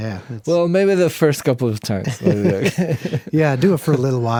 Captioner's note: both laugh